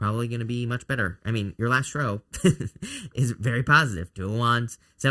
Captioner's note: laughs